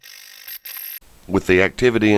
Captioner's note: static fizzing